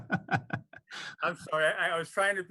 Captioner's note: laughter